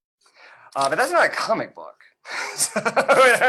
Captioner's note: laughs